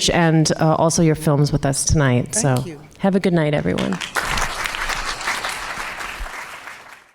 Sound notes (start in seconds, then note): 3.7 audience clapping